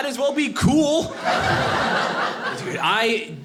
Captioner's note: audience laughing